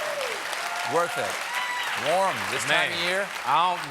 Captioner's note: cheers and applause